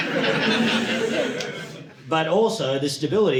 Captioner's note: audience laughing